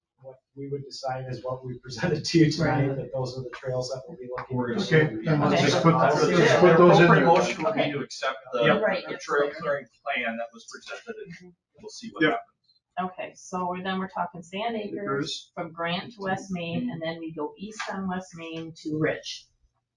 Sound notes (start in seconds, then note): 5.2 people chattering